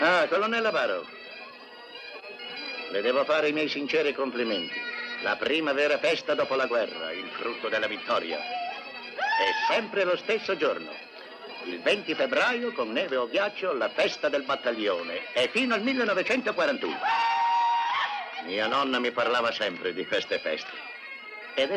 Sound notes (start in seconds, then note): 9.2 whooping; 16.9 man hollers